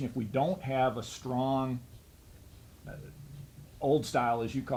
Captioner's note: none